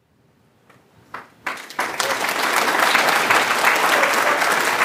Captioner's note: applause